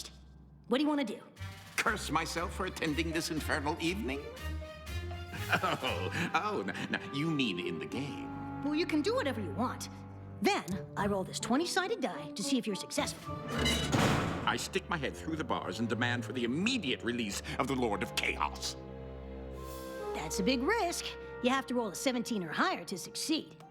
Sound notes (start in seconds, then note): 5.3 chuckles; 13.5 clank